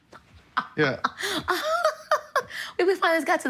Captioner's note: laughter